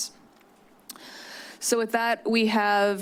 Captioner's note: clicks tongue